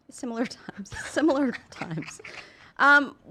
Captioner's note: laughing